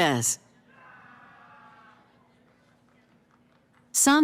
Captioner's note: cheering